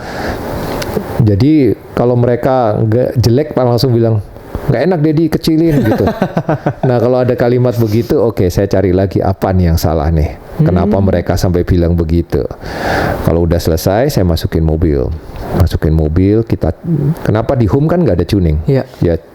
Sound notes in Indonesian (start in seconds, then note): 5.6 tertawa